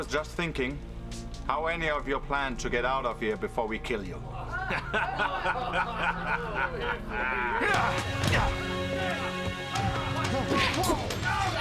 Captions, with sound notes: - I was just thinking how any of you plan to get out of here before we kill you? - (laughing) - Hi-ya! (dramatic orchestral music)